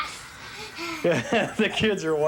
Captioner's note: laughing